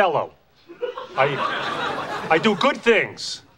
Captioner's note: audience laughing